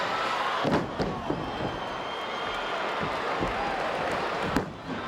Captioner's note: crowd chattering